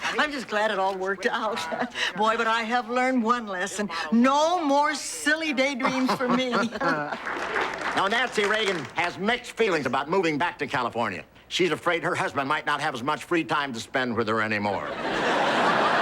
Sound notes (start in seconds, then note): 5.6 laughing